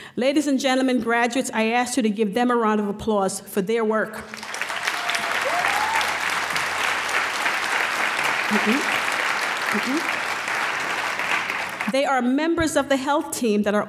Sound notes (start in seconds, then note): 4.2 applause